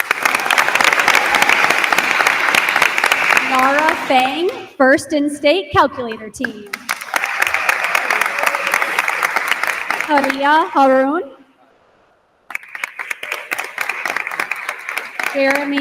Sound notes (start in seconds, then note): 0.0 attendees applauding; 6.7 attendees applauding; 6.8 attendees cheer; 12.4 attendees continue applauding